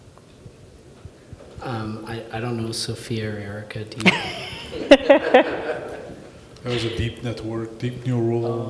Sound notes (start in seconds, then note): 4.0 all laughing